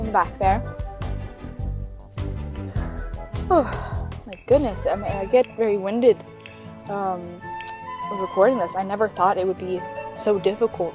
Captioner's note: sigh